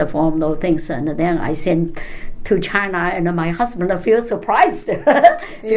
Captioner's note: laugh